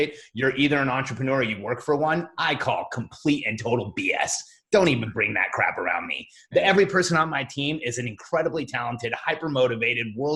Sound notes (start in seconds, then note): none